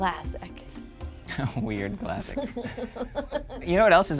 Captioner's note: laughs